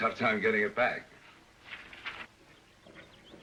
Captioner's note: paper shuffling; birds chirping, hooves clopping